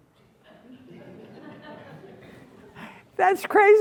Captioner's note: crowd members chucking